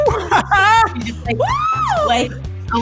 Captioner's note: laughs